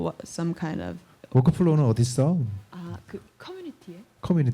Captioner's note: speaking korean